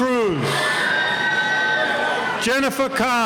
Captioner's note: cheering